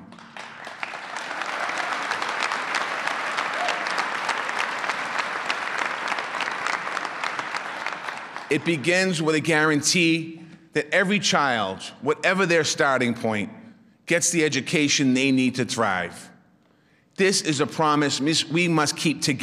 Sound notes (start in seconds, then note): 3.1 applause